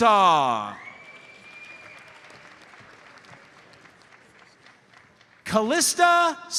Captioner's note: audience member whistles; audience applauds